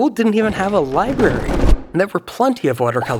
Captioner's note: bookcase thumping